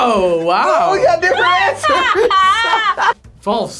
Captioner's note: both laugh